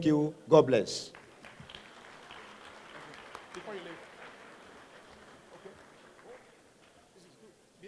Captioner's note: applause